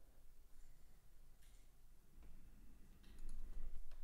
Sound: keyboard clicking

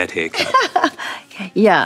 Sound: laughing

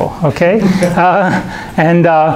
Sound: chuckling

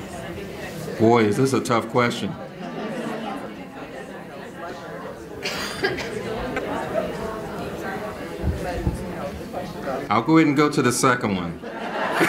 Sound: laughter

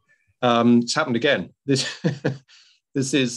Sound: laughs

